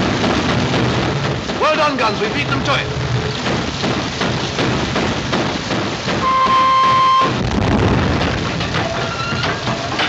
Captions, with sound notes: Well done, guns. We've beaten them to it. (Rapid gunfire) (Horn)